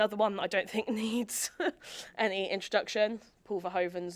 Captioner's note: chuckles